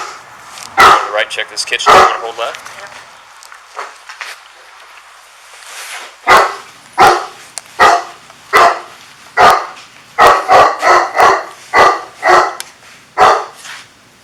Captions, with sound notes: All right, check this kitchen, I'm gonna hold left. [Dog barking]